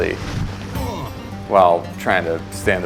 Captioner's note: grunts